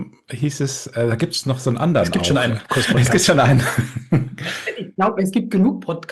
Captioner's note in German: gelächter